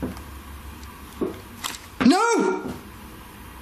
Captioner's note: knocking